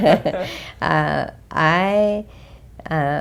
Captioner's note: laugh